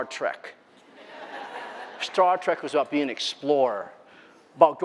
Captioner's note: laughter